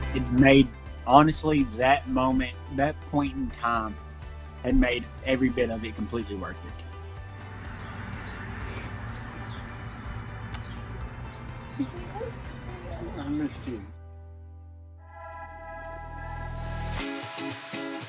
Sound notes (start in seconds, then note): 10.4 kissing; 15.1 upbeat music